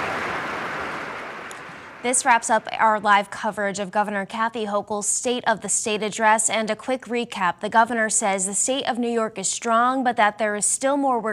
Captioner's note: applause